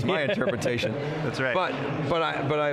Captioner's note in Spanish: se ríe